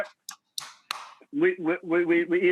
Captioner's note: claps